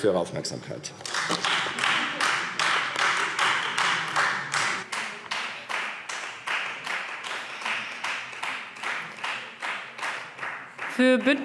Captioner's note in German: Beifall Freie Demokraten